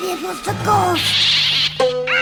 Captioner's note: pelican squawks